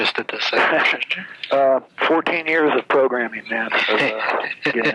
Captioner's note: laughs